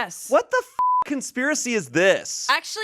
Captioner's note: beep